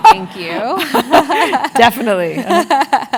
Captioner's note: laugh